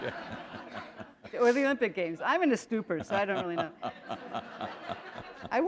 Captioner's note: laughter